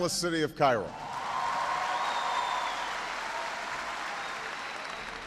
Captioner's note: applause and Cheering